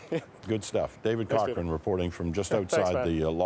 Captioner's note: laughter